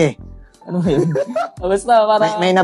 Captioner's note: laughs